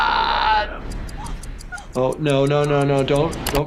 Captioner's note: person gasping